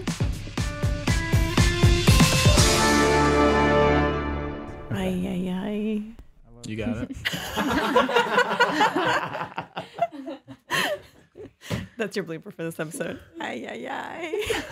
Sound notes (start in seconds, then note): 0.0 upbeat music; 6.8 group laughs